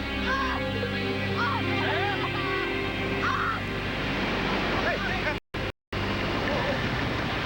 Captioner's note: tea screams